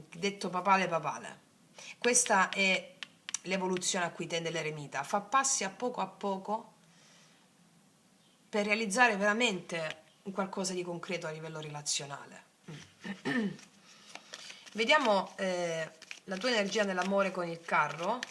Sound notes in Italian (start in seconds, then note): 12.6 schiarire la voce